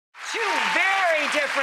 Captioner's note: audience cheering